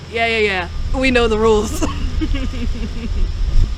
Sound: laughter

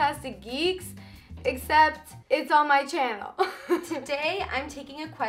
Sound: laughs

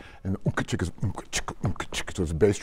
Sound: beatboxing

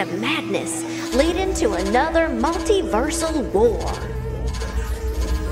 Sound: beeping

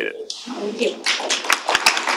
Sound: applause

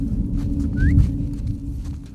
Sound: call whistle

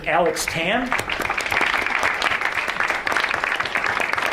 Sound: audience applauds

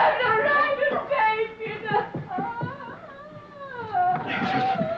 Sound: crying

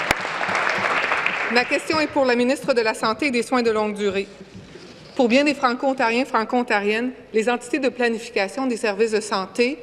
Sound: applause

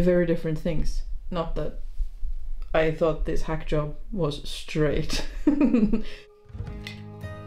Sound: laughs

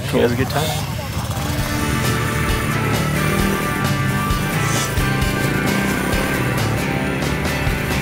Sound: motorbike engine roaring; upbeat rock music continues

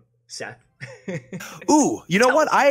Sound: laughing

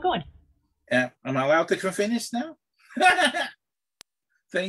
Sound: laughs

